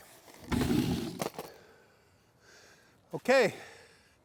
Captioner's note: wood scraping